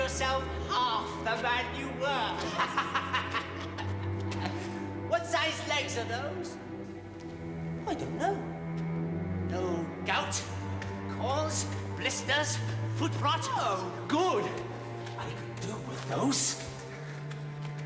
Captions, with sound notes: OR YOU'LL FIND YOURSELF HALF THE MAN YOU WERE. [laughing] WHAT SIZE LEGS ARE ? I DON'T KNOW. NO GOUT? CORNS? BLISTERS? FOO? NO! GOOD. I COULD DO WITH.